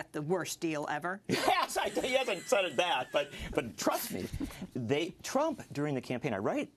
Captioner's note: laugh